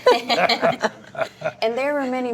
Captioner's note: laughing together